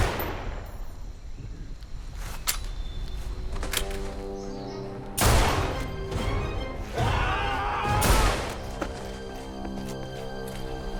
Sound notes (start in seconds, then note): 0.0 guns firing; 7.0 man yells